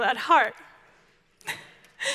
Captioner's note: giggles